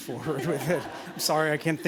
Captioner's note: laughter